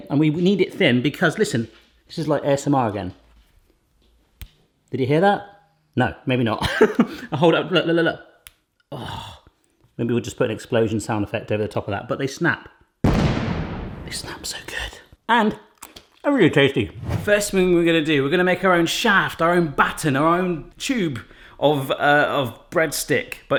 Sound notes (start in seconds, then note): 4.4 Mikado clicks; 6.6 laughs; 8.6 Mikado clicks; 8.6 groans; 13.0 explosion bangs